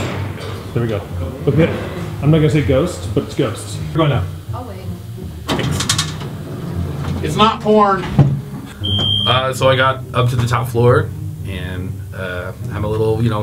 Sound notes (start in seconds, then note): 5.0 voiceover